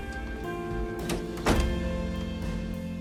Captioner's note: door shuts